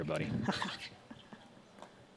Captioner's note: laughs